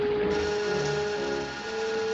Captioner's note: whirring